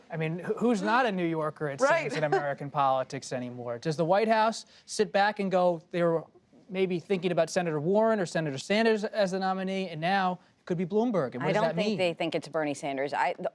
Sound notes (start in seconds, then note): 4.9 laughs